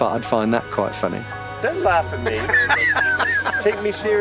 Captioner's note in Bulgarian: смее се